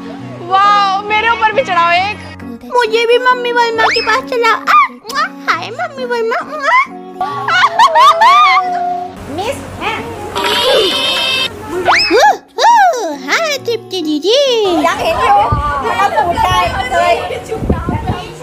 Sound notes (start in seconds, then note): 7.2 laughing; 14.6 loughing